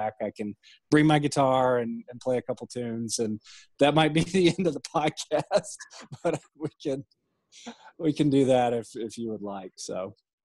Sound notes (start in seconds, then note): 4.3 laughing